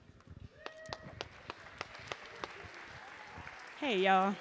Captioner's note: audience cheering